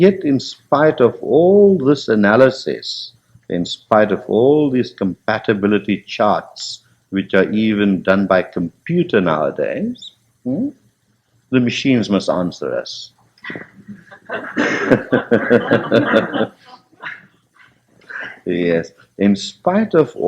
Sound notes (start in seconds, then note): 13.4 laughter